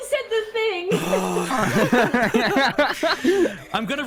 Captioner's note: exasperated sighs and laughter